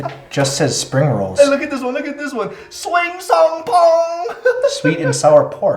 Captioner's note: laughing